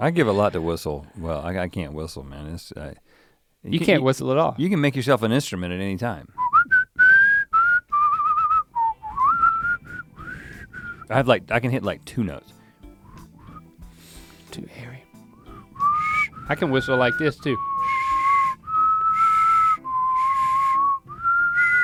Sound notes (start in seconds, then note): 6.4 whistles melodically; 18.2 both whistling